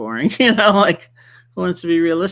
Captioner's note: chuckles